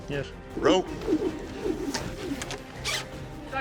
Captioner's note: air whooshing